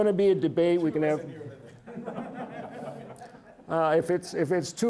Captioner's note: audience laughing